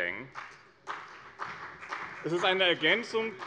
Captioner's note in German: Beifall bei dem BÜNDNIS 90/DIE GRÜNEN und der CDU